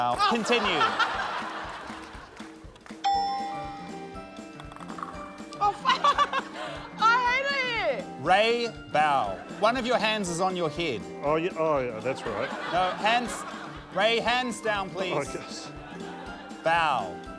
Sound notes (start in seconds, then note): 0.1 laughs; 3.0 ding!; 5.6 laughs